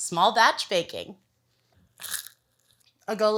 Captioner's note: crunch!